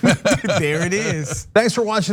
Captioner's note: laugh